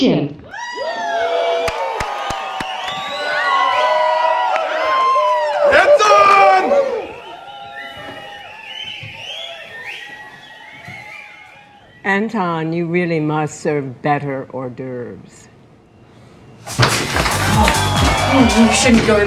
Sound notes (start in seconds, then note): 0.5 all cheering; 6.9 all continue cheering; 17.4 techno music playing